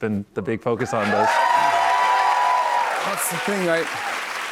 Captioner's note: cheers and applause